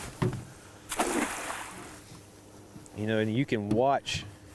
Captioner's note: water splashing